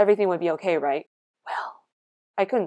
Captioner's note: whispering